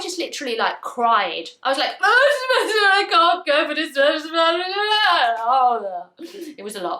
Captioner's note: crying noises